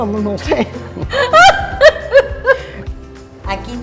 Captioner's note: laugh